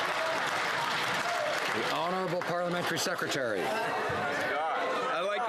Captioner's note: some Applause